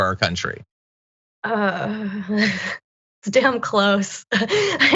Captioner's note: laugh